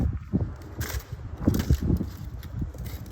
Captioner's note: wind blowing in the background